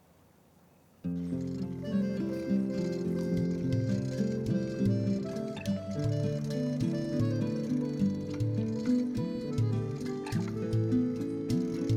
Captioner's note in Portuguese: som de bicicleta